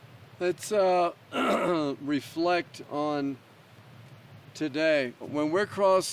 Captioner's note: clears throat